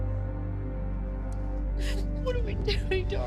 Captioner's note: crying